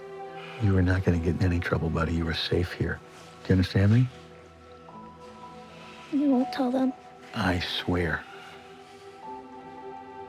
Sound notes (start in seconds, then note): none